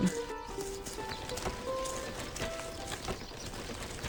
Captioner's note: birds chirping; wheels rattling